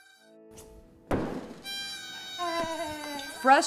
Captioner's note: axe hitting wood